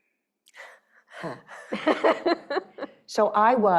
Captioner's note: laughing